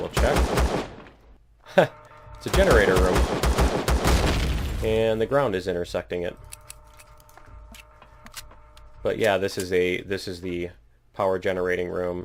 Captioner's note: laughs